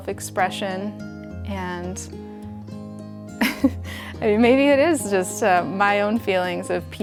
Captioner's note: chuckles